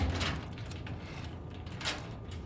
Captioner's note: locks clicking